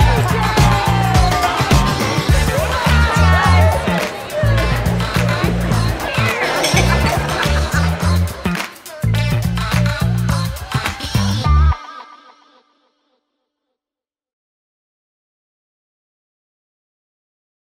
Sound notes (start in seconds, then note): 3.2 cheering